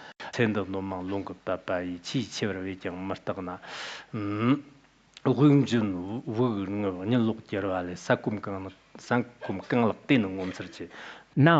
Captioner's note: citing scripture in Tibetan